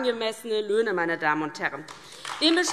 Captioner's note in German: Beifall DIE LINKE und vereinzelt SPD